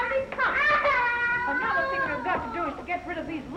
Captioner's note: child crying